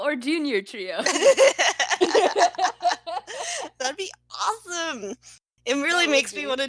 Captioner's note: laughter